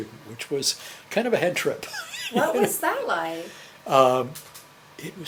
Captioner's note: laughs